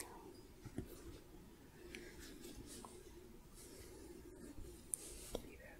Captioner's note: gentle shuffling